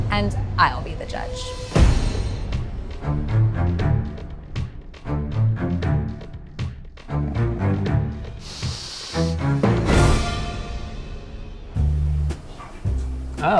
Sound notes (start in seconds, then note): 1.8 tense music; 8.4 sniffing; 12.1 soft jazzy music